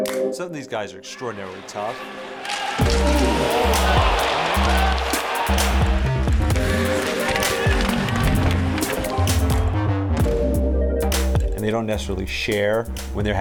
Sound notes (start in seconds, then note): 3.3 crowd cheering; 5.6 upbeat music